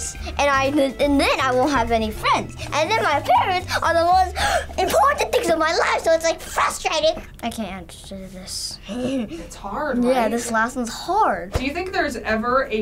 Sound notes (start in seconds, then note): 8.1 chuckles